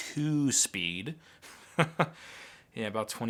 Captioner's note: laughs